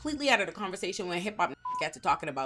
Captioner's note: beep